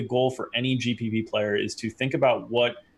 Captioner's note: none